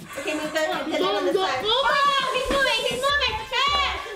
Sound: chattering together

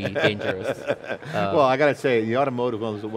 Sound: laughs

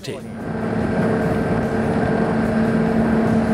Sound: engine roars

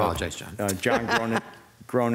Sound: mayor laughing

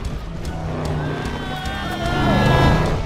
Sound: screaming

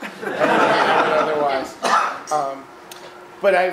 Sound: audience laughing

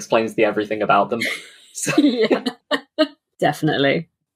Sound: laughs

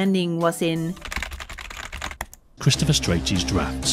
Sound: keyboard clattering noise

